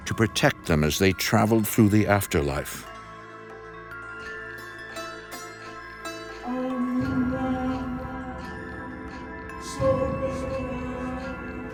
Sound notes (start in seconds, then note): 6.4 chanting